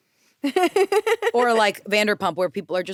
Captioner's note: laughs